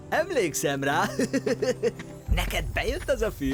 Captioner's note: chuckling